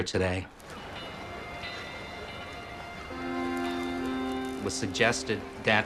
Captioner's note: bells ringing; somber music